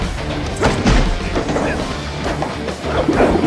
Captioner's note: both grunting